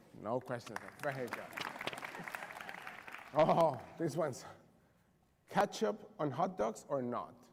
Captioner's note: applause